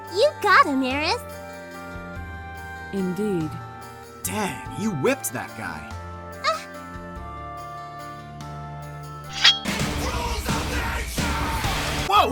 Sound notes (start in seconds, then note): 9.3 swoosh